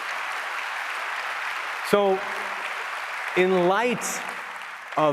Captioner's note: applause